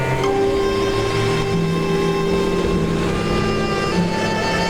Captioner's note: dramatic music; car engine revving